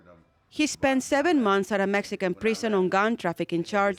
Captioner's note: voiceover